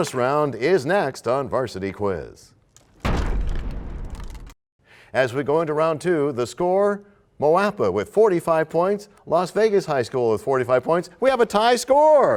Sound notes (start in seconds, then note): 2.8 crashing sound